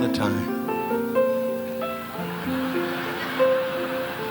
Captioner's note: audience laughing